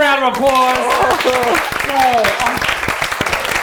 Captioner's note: cheers